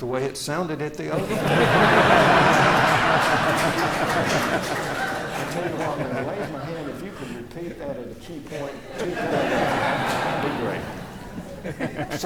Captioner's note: laughter